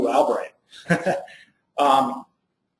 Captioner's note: laughs